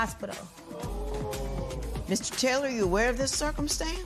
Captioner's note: audience "Oohs"